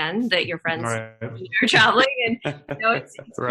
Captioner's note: laughing